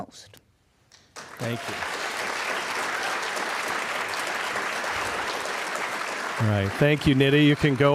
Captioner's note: applause